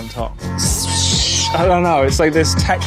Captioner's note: imitating bit crushing